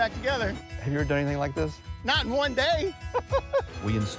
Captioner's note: laughing